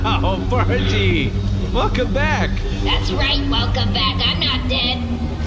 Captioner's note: laughing